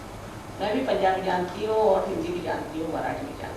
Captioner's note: hindi